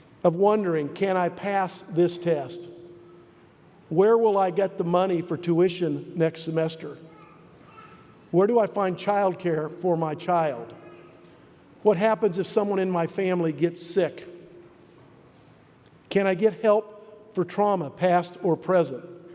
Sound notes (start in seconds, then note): none